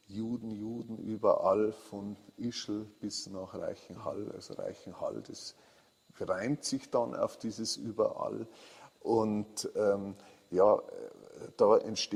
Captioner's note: in German